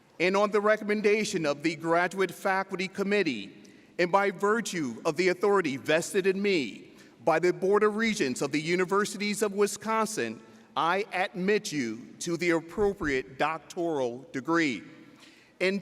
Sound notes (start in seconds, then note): none